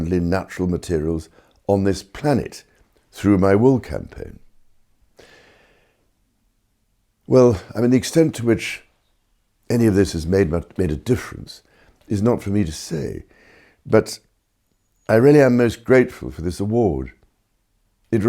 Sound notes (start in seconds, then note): none